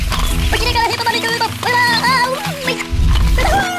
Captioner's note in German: aufgeregtes Gebrabbel